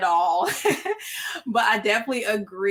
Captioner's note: laughs